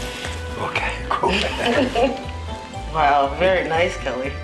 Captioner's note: all chuckling